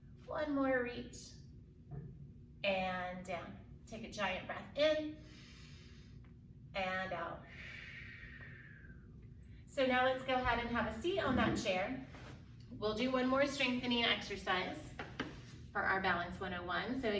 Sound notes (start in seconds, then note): 5.2 inhales deeply; 7.4 exhales deeply